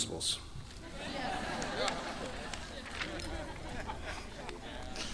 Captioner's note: audience laughing